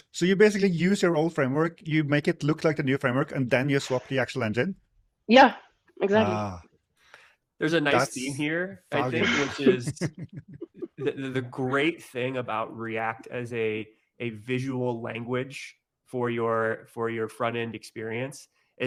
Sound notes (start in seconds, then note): 8.9 laughs